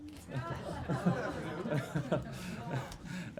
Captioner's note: laughter